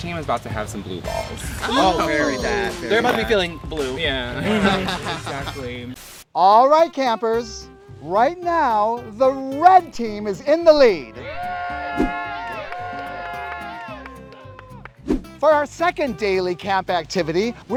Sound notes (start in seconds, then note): 11.1 red team cheering